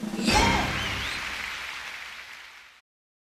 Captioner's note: cheers